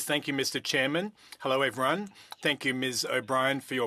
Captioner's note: speaking French